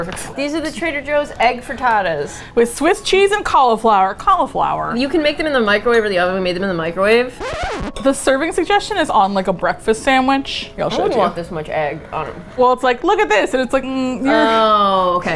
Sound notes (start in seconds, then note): 3.8 with exasperation